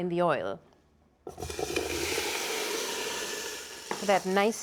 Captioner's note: sizzling